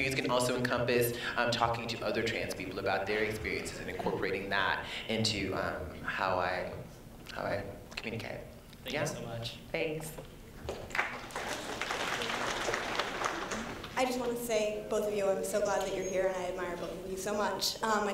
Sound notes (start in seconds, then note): 10.7 applause